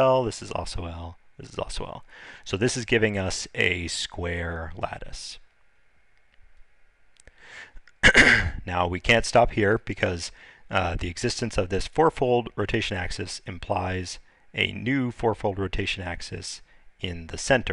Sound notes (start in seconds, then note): 8.0 clearing throat